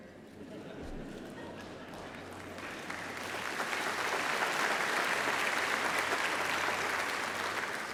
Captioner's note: laughter